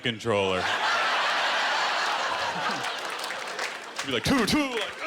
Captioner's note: laughter